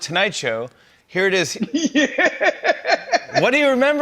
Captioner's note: laughs